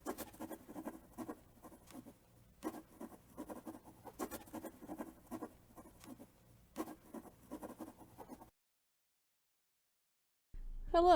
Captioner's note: pen scratching